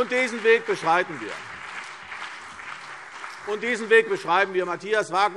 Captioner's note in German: Beifall CDU und BÜNDNIS 90/DIE GRÜNEN